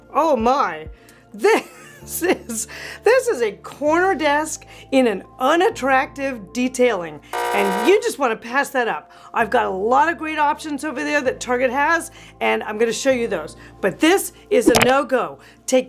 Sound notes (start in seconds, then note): 7.7 buzz beeping